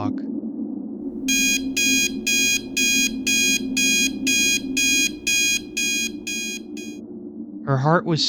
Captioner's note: alarm clock beeping